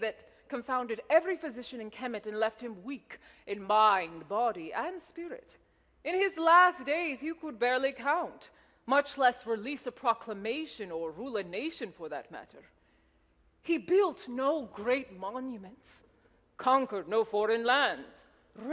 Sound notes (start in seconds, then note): none